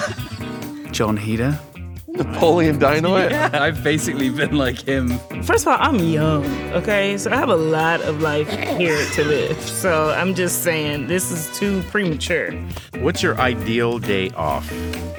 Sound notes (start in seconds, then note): 7.3 laughs